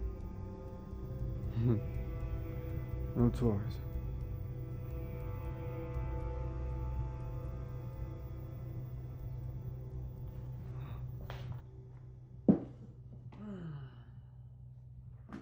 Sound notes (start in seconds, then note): 1.8 laughs; 4.2 suspenseful music